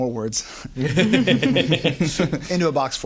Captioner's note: laughter